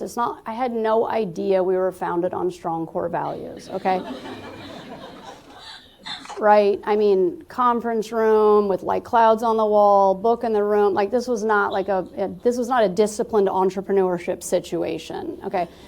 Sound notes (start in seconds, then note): 3.6 laughter